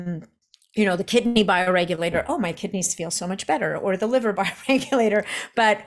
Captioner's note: chuckles